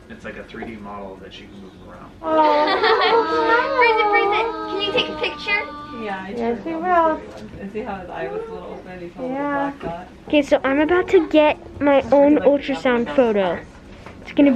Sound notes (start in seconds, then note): 2.2 all laughing